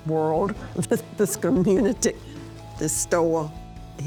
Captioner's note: chuckling